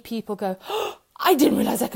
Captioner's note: gasping